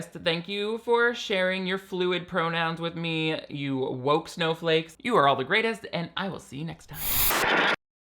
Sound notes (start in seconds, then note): 6.9 static crackles